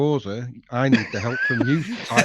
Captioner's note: laughing